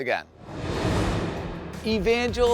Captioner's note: air whooshing